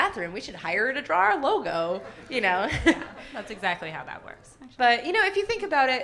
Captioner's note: laughs